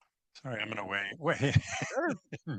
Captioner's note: laughs